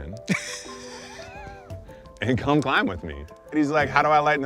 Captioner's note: all laughing